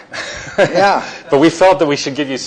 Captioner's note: chuckles